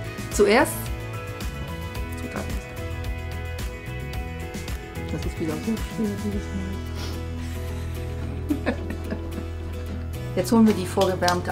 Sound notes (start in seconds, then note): 5.9 sighs; 8.1 laughter